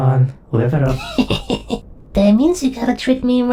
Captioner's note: Beth giggles